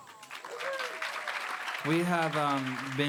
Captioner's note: audience applauding